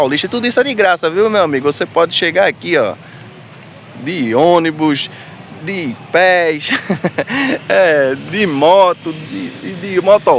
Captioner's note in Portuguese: risadas